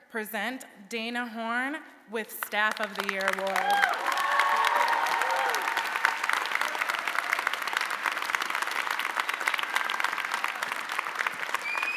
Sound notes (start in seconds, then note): 4.0 audience applauding